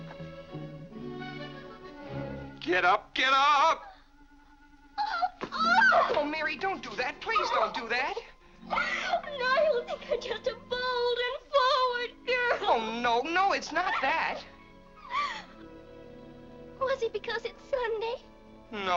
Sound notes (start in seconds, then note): 4.9 Mary cries; 8.7 weeping